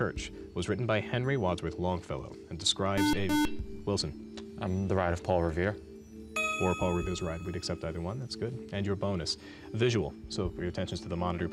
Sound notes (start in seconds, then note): 3.0 beep